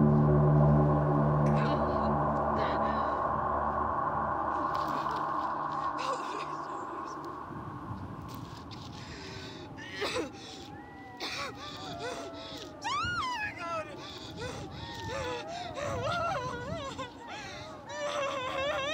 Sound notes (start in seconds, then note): 10.0 Brigit coughing; 11.4 wolves howling; 15.1 Brigit sobbing